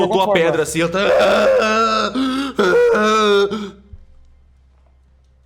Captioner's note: aaarrh aaarrh